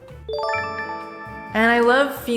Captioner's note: chime